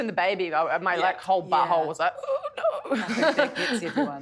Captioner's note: chuckles